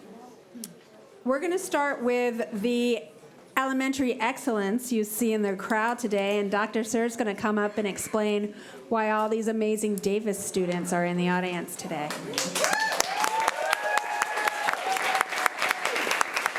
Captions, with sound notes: - We're gonna start with the elementary excellence you see in the crowd today. And Dr. Suhr is gonna come up and explain why all these amazing Davis students are in the audience today. (applause)